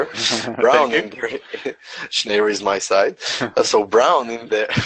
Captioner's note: chuckling